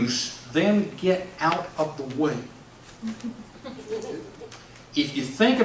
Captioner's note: audience laughs